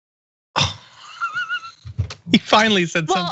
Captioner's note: laugh